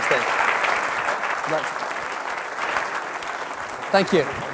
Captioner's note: applause